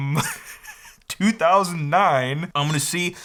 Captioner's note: chuckles